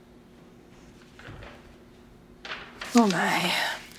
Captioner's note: paper rustling